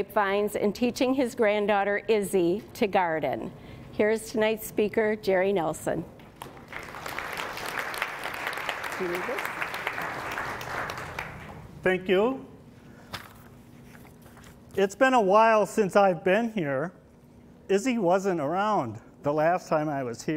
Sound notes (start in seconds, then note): 6.4 applause